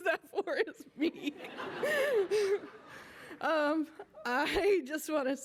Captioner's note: laughter